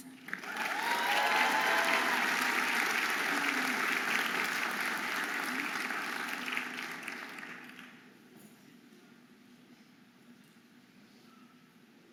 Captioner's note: audience applauding and cheering